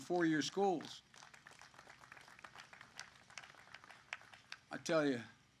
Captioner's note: applause